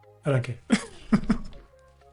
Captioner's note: laughs